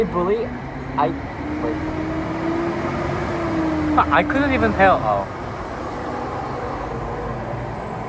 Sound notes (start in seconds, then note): 0.0 a big truck passing